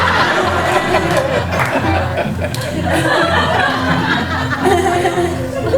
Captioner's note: audience laughter